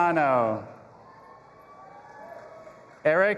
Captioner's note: audience applauding and cheering